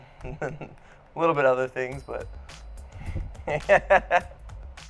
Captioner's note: laughs